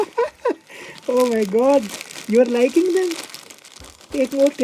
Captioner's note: laughing